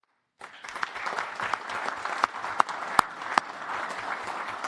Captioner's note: applause